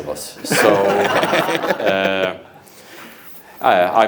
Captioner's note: audience laughs